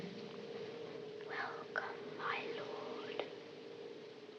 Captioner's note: whispers